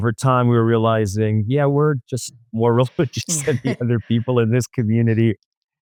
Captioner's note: laughs